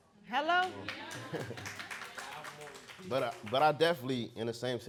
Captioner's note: audience clapping